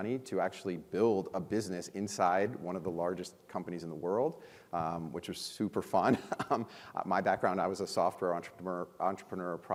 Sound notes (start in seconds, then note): 6.1 chuckles